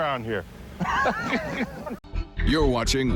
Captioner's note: laughter